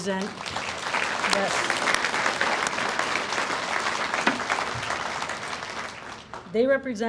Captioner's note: audience applauds